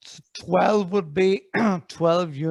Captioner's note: clears throat